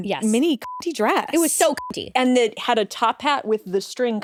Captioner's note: beep